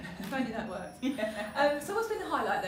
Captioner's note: laughs